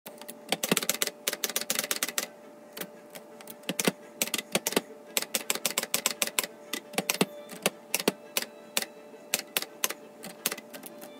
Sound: typewriter clacking

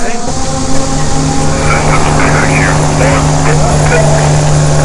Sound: helicopters whirring

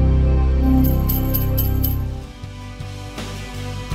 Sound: ominous music; bells jingle; upbeat music

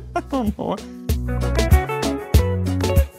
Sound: laughing

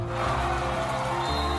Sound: cheers

